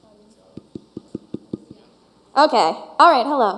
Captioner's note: tapping on mic